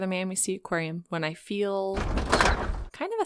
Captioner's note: metal thuds